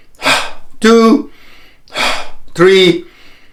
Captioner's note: inhaling and exhaling